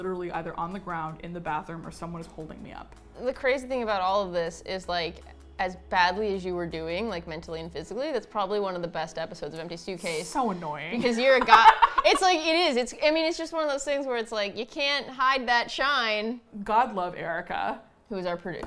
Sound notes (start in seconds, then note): 11.3 laughs